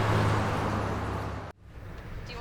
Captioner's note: cars passing; TV playing in background